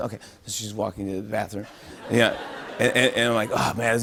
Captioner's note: laughter